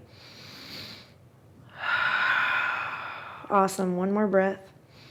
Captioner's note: inhales and exhales